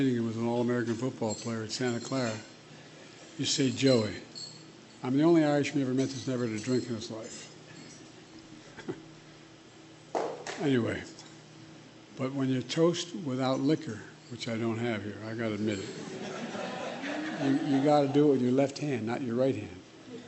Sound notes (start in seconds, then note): 8.3 laughs; 15.9 laughter